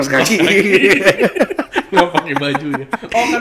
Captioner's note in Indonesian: ketawa